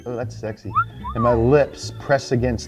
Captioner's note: wolf whistle